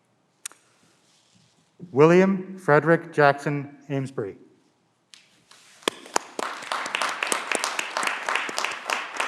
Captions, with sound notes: William Frederick Jackson Amsbry (clapping)